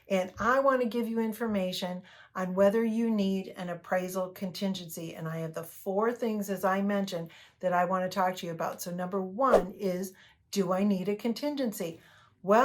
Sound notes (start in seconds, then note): 9.5 air whooshes